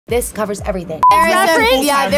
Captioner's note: beep